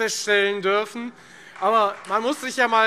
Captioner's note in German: Beifall Freie Demokraten